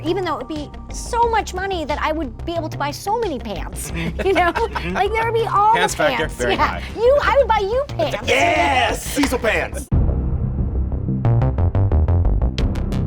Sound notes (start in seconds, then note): 3.8 guys laughing; 10.1 dramatic music